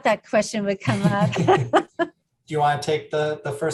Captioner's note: laughing